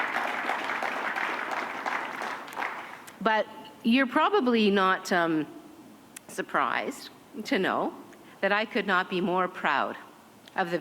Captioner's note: applause